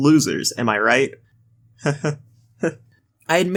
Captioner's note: nervous Laughter